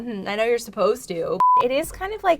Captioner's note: beep